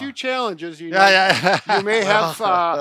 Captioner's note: laughs